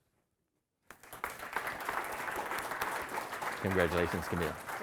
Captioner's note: audience applauding